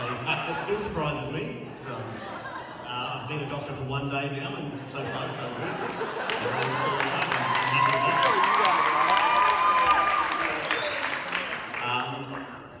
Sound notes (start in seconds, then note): 6.2 applause